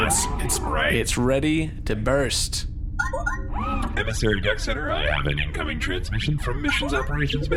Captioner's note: incoming transmission beep